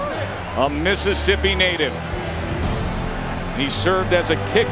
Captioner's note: voiceover